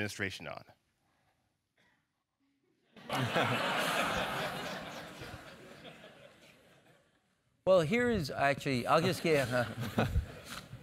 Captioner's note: laugh